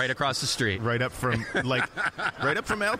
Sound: laughing

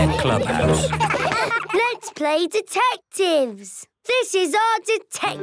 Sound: giggling

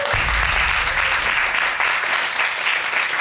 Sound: audience applauding

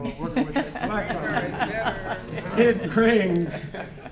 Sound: laughter

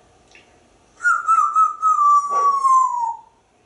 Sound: whistling

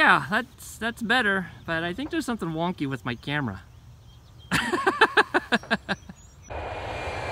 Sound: chuckles

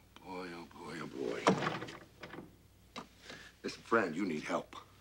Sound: rattles door

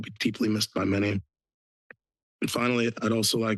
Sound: pause

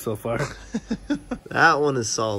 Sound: laughs

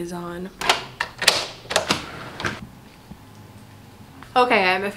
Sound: locks turning

